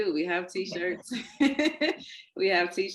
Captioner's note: laughs